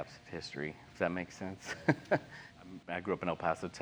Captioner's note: laugh